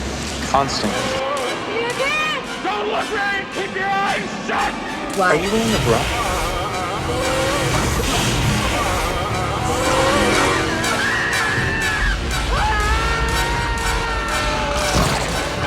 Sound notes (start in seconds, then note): 7.0 Nazi frightened screams; 8.3 Angelus spitting; 10.0 Nazi frightened screams